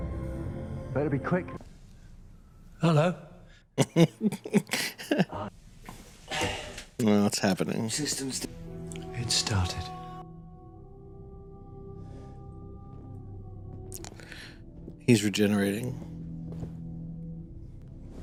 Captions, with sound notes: [laughing] Aww, it’s happening. He's regenerating.